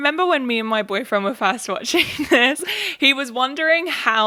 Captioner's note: laughs